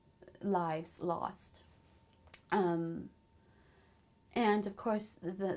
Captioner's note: pauses for 3 seconds